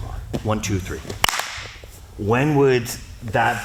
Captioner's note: claps